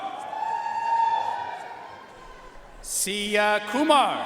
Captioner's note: audience cheering and applauding